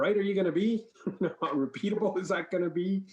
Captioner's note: laughs